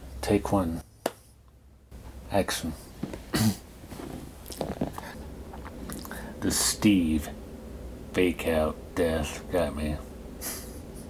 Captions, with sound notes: take 1. (Clap) Action. (Clears throat) The Steve fake-out death got me!